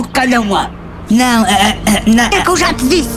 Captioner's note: caughs